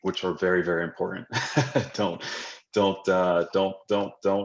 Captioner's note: chuckles